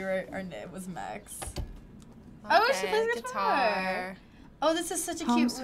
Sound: door closing

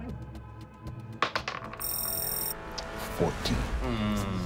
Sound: dice rolling

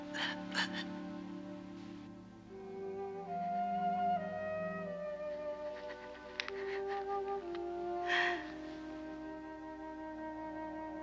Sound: whispering

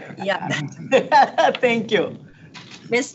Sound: laughs

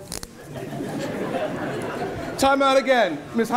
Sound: attendees laughing

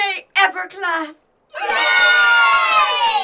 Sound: cheers

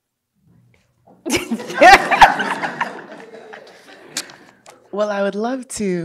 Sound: audience laughing

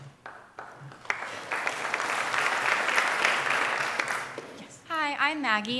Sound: applause

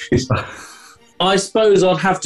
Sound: chuckling

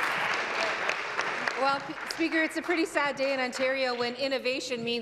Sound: applause

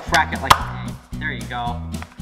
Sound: pop

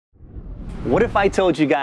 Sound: air whooshing

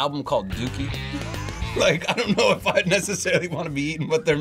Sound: laughs

